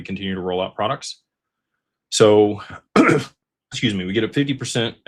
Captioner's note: clears throat